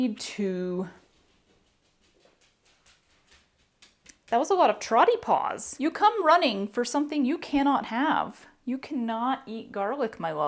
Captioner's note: trotty paws approach